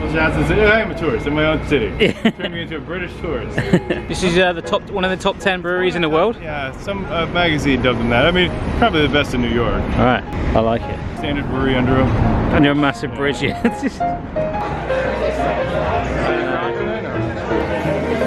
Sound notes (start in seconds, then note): 13.5 laughter; 14.5 upbeat ragtime music